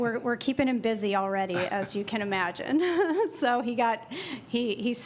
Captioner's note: laughter